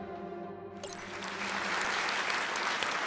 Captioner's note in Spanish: aplausos